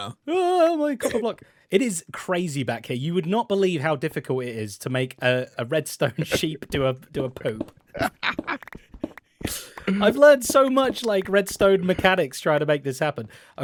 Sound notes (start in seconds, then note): 7.9 laughs